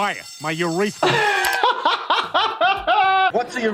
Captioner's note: he laughs